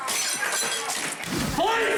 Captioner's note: glass shattering